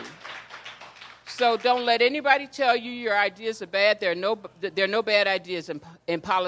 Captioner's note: applause